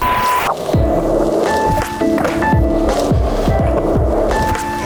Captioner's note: skateboard rolling